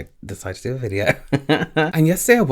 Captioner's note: laughs